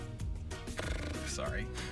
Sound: blows raspberry

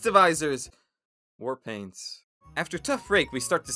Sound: dejectedly

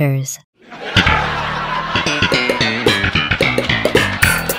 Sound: canned laughter

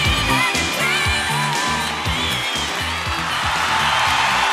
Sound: audience cheers

